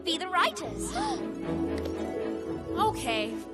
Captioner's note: excited gasp